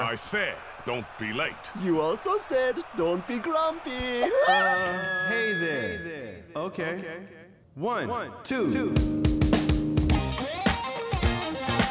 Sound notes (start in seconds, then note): 4.0 voice echoing; 8.6 funky music